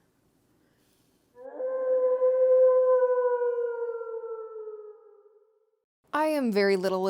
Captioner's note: werewolf Howl